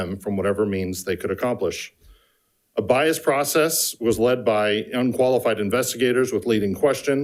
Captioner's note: none